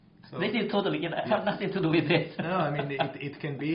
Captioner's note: laughs